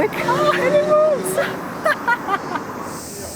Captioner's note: laughs